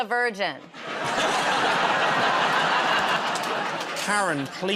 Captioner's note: laughter